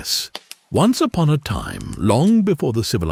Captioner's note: chill campfire sounds